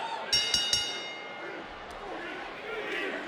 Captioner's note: bell dings